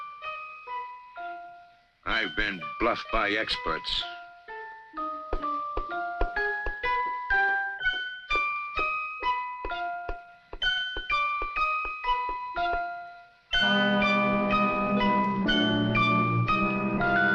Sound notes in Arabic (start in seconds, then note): 4.1 نقر الأصابع; 13.6 موسيقى مشوقة